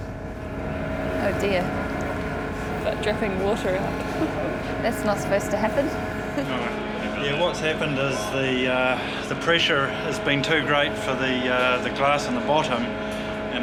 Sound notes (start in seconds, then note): 3.6 chuckles